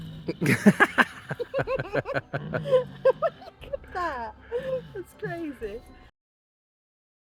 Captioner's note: laughing